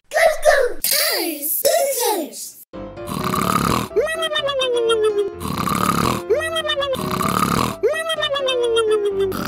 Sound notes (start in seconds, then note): 3.0 loud snoring